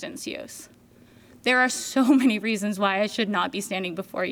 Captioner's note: laughter